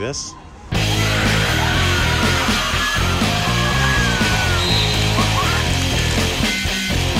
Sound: screaming; upbeat rock music

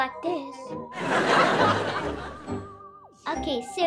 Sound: audience laughs

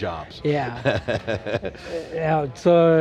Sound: laughing

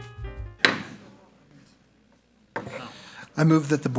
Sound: gavel bangs

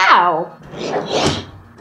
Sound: scrape

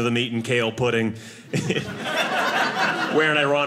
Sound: audience laughing

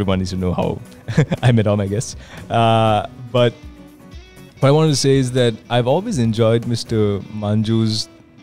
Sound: laughs

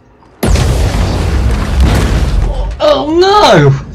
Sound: boom 💥!

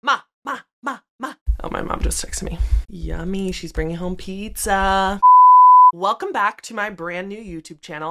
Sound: tone

